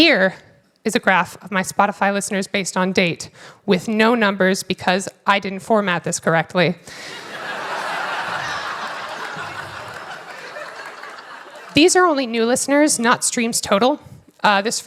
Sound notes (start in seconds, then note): 7.0 laughter